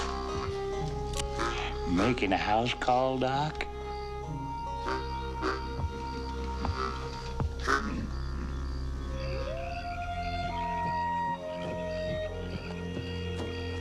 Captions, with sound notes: (pistol clicks) - Making a house call, Doc? (low plucky music) (wolf howling)